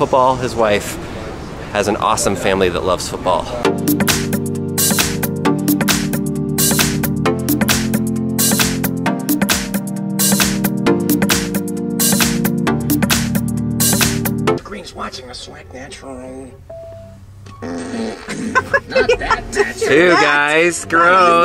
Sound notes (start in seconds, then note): 3.6 mid tempo music plays; 17.5 fart sounds; 17.6 laughs